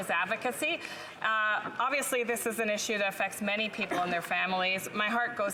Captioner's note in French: voix de l'interprète